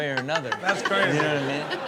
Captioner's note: audience laughs